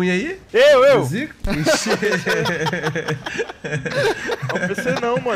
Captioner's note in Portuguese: risos